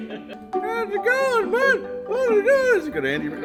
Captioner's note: imitating Woody's voice